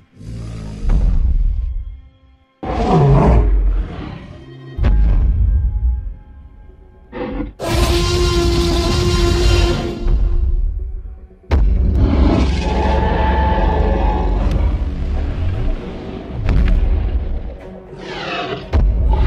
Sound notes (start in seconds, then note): 7.1 T-Rex roars; 13.9 T-Rex roars loudly; 14.9 stomping sounds